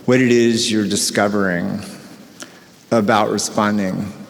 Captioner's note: none